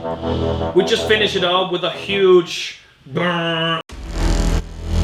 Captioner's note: bwaaaam